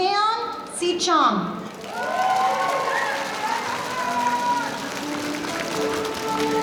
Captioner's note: audience applauding